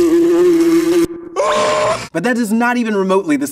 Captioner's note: Patrick whimpering; fly buzzing; Patrick screaming